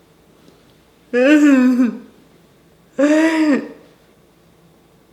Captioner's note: laughing